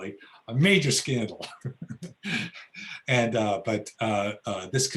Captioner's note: laughs